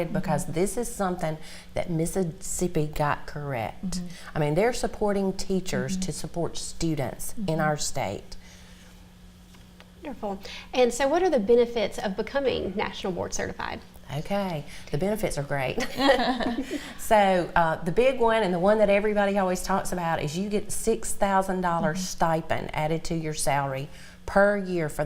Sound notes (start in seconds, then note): 15.8 laughter